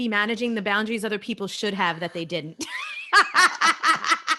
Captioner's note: laughs